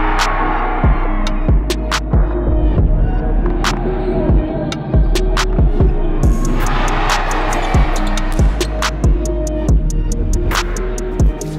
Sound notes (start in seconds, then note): 0.3 hip-hop music; 6.2 crowd cheering